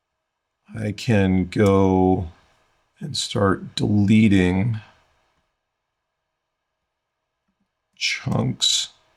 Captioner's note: silence